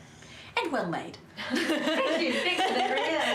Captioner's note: laughing